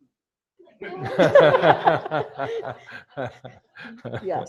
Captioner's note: laughter